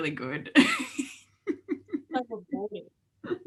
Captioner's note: laughs